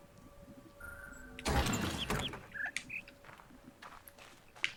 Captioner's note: bird chirps high-high-low-mid